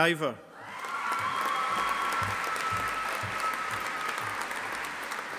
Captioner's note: audience applauding